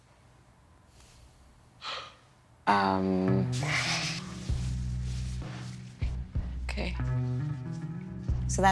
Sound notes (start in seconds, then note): 1.8 sighs; 2.8 sultry music